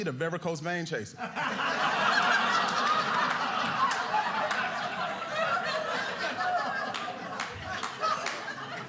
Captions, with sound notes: the varicose veins chaser. (audience laughing)